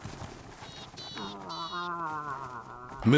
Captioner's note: moose calls